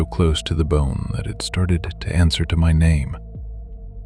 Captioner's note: soft voice